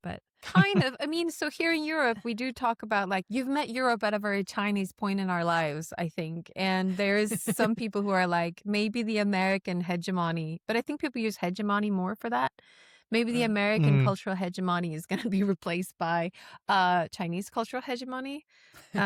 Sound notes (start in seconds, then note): 6.9 laughs